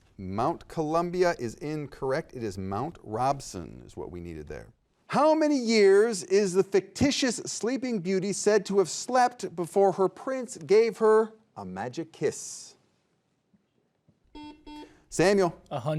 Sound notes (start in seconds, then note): 14.3 buzzer beeping